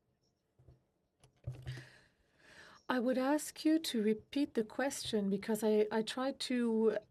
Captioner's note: speaking French